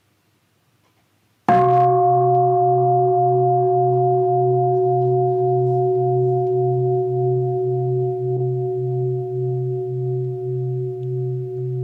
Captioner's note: bell